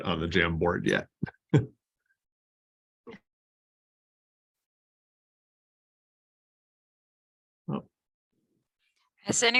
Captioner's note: laughter